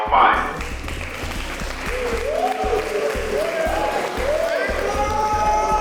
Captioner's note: crowd cheering